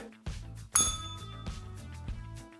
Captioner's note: bell rings